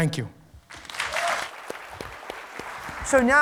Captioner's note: applause